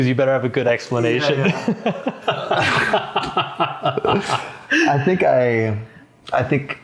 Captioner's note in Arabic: يضحك